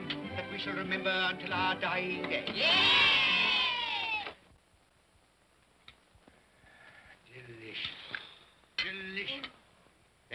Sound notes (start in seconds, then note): 2.5 children cheer